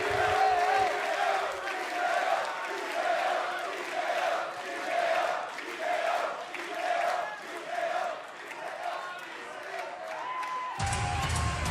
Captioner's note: fans chanting